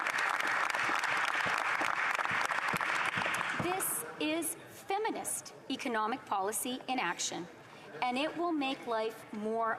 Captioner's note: applause